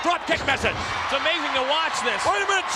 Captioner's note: spectators cheering